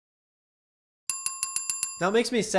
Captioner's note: service bell ringing quickly